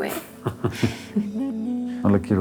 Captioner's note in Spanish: Risas